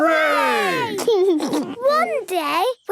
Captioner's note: laughs